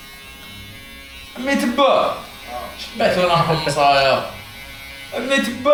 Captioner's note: Arabic